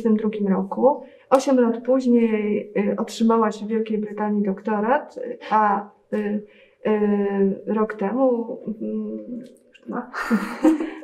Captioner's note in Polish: śmiech